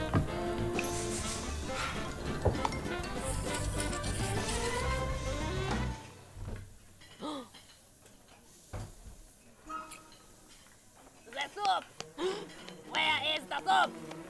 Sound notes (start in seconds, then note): 1.1 sniff, sniff, sniff... sigh; 7.0 gasp